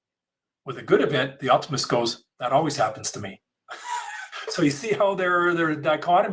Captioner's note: laughs